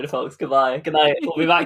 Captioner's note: laughs